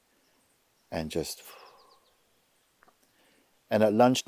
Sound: exhales

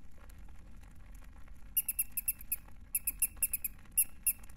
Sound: mousy squeak

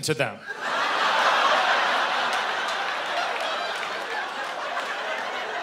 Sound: laughing

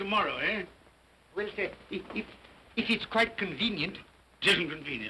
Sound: stammering

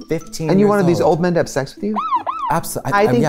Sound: siren wails

